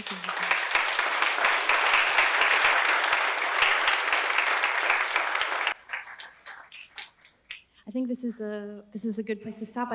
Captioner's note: applause